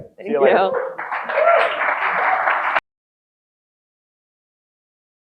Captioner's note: audience applauding